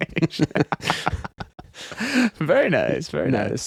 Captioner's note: laughing